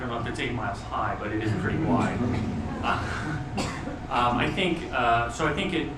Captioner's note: laughing